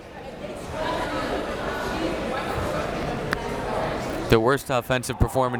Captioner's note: crowd members talking